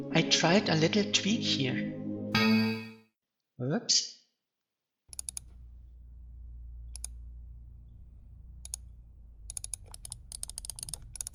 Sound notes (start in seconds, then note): 2.3 error message sound; 5.1 slow mouse clicking; 9.4 faster mouse clicking